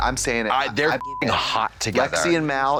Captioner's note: beep